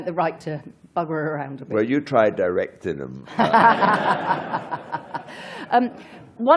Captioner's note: laughter